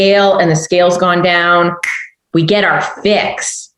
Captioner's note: snaps fingers